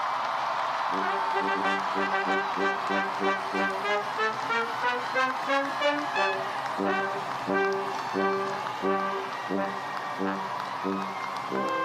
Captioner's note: cheers and applause